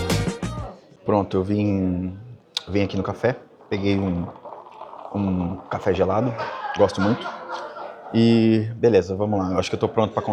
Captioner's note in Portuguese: risadas